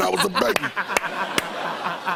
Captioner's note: laughter